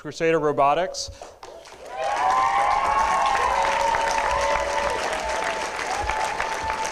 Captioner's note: applause, cheering